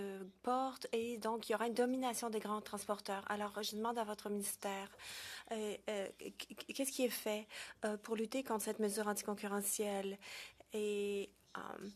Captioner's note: speaking French